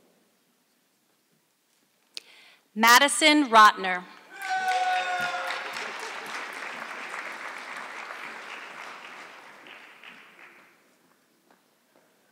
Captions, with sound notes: Maddison Rotner. (audience clapping)